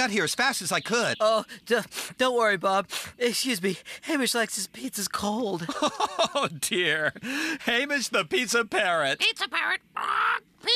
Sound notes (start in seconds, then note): 2.9 sniff; 5.5 chuckling